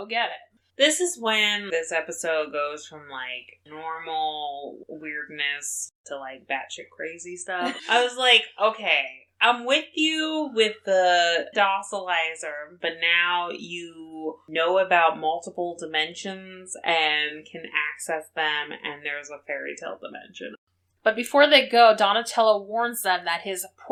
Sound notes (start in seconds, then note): 7.6 laughs